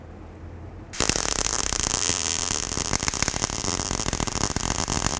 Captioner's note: weld popping